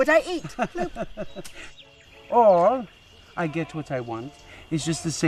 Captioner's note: laughs